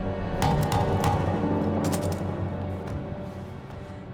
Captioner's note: hand tapping